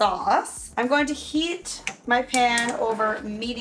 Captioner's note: stove turning on